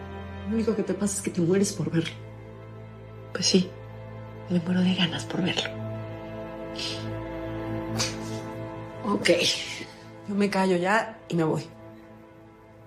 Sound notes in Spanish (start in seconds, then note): none